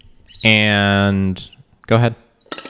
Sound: squeak

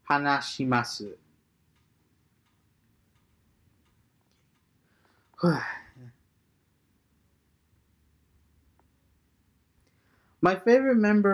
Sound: transitioning from japanese to english

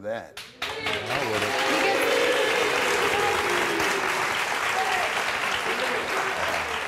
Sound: audience applauds

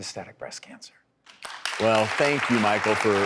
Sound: clapping

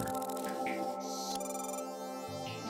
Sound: beeps

